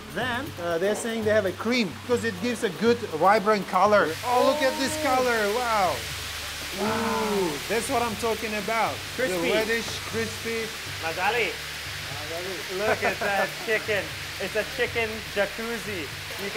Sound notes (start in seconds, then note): 6.0 sizzling; 11.2 speaking foreign language; 12.8 laughing